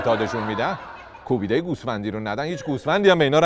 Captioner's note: laughter